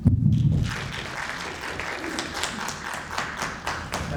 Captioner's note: applauding